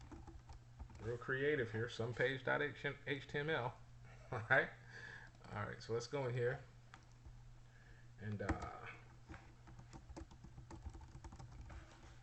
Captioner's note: typing sounds